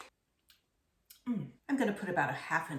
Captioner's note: moaning